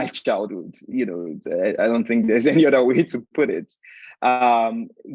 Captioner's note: chuckling